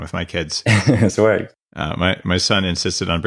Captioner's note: laughs